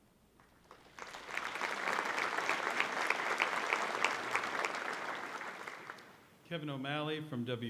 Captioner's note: applause